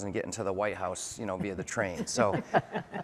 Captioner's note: laughter